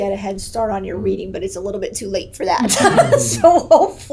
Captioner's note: laughs